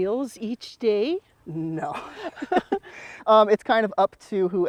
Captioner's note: laughs